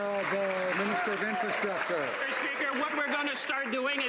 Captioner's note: some Applause